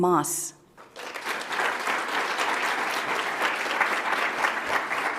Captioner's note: audience applauds